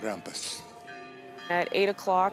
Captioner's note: bell ringing